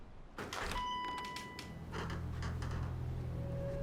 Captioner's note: door bell dinging; ominous music